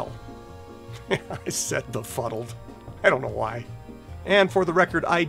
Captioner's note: chuckles